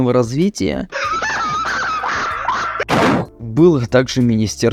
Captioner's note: desk smash